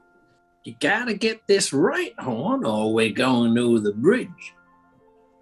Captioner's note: sniggering; american accent